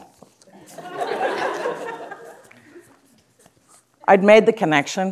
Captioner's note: audience laughing